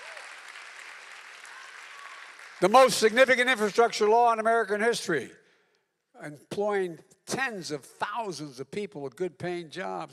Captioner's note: applause